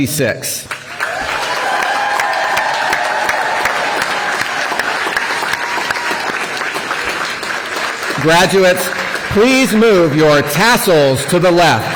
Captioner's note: applause